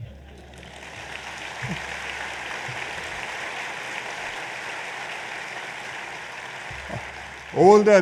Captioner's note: applause